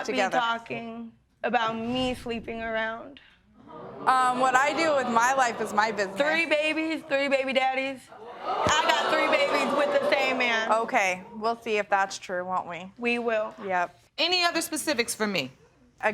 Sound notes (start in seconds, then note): 1.5 audience gasp; 8.2 audience react